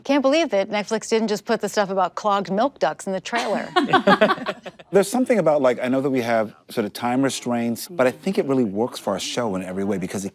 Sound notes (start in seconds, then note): 3.6 everyone laughs